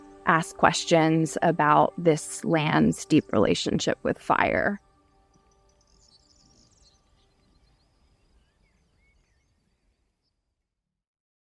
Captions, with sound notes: ask questions about this land's deep relationship with fire. (birds chirping)